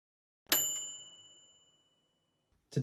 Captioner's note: bright bell dinging